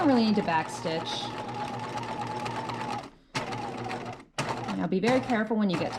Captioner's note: sewing machine whirring